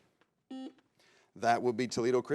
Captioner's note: buzzer beeps